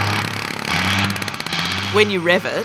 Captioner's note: engine revs